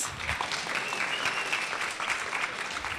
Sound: applause

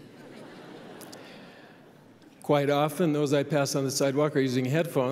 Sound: laughter

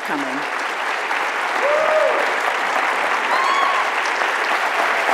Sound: audience applauds

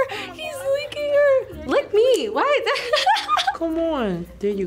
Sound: laughs

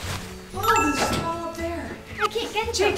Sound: chime

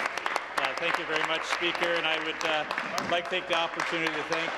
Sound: applause

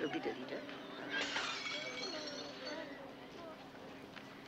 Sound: smashing of glass

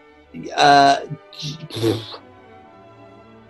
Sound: splutters

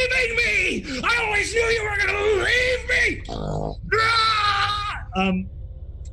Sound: growls

